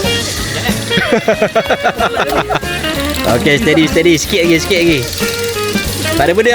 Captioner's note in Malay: Ketawa